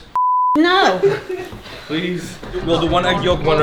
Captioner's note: beep